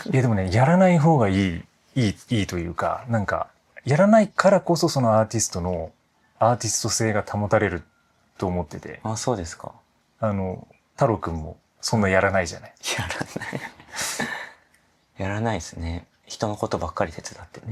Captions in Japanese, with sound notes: いや、でもね、やらない方がいい。いい、いいというか、なんかやらないからこそそのアーティストのアーティスト性が保たれると思ってて。 あ、そうですか。 あの太郎君もそんなやらないじゃない? やらない。やらないすね。人のことばっかり手伝ってね。 [笑い]